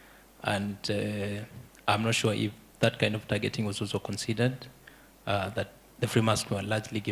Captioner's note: none